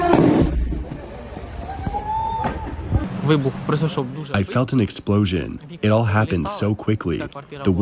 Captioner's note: through translator